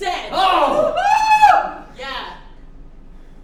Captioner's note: screams of disbelief